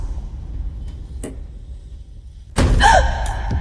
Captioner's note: gasping